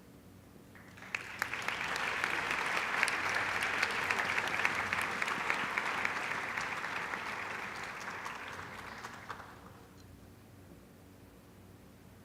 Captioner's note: applause